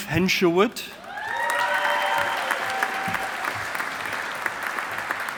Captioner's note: audience applauding